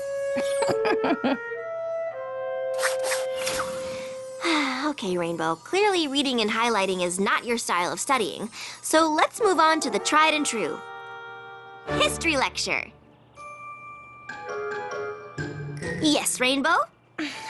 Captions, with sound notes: (chuckle) (sigh) OK, Rainbow. Clearly reading and highlighting is not your style of studying. So let's move on to the tried and true. History Lecture! Yes, Rainbow?